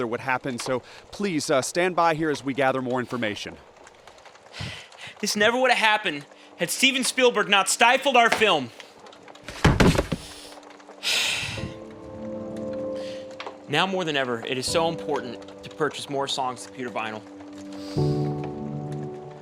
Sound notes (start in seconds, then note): 4.2 Nick, angrily; 17.9 tender music continues